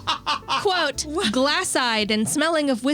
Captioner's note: laughing